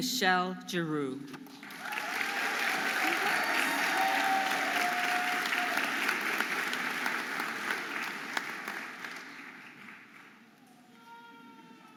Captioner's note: audience applauding and cheering